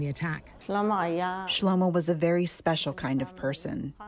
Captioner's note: through translator